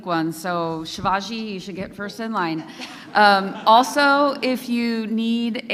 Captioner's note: laughter